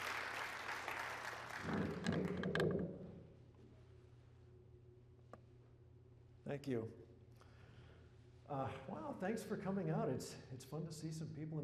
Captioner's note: applause